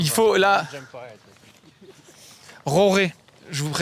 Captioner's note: with a very bad french accent